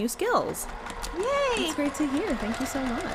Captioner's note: sewing machine whirrs